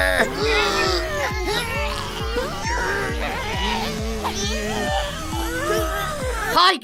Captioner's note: tugging sounds